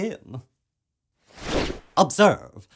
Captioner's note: swoosh